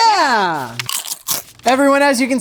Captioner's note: crunching